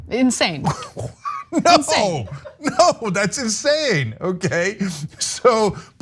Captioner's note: laugh